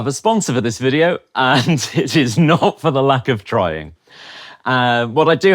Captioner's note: laughs